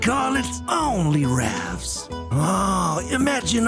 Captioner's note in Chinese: 唯有引擎轰鸣